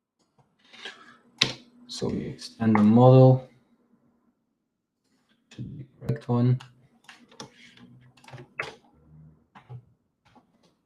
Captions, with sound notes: So we extend the model to the correct one. (keyboard clacking)